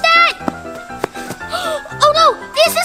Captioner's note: gasps